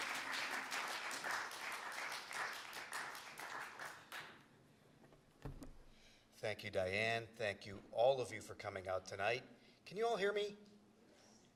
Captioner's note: applause